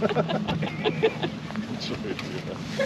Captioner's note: laughing